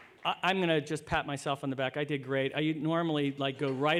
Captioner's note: applause